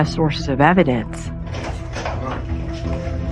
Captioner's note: door clicks open